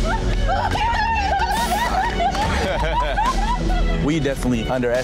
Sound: laughing; both crying; laughing

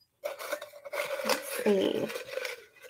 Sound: papers rustling

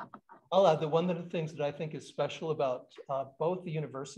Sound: none

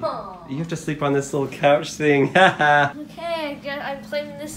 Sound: laughs

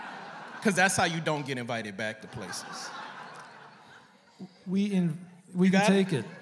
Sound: laughter

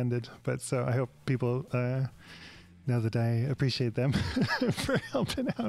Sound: laughs

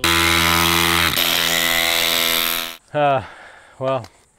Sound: drill grinding sound fading out

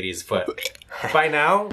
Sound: gag noise

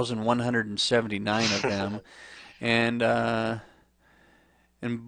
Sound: chuckles

